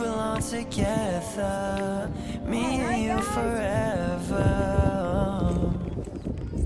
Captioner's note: laughs